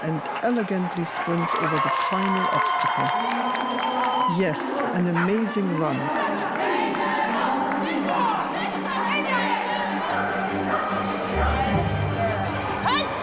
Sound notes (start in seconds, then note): 2.7 crowd cheers and claps; 8.9 dramatic uplifting music